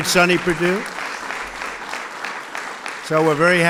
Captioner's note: applause